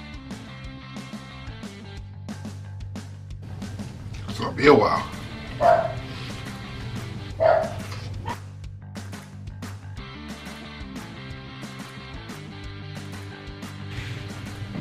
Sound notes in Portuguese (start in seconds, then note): 5.2 meus dois cachorros latem de outra sala